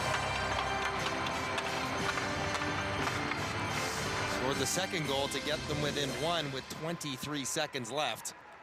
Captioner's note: cheering and Applause